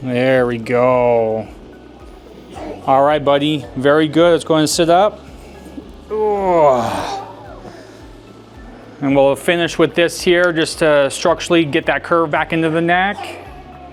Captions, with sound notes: There we go. Alright buddy, very good, let's go and sit up. Aww! (grunting) And we'll finish with this here just to structurally get that curve back into the neck.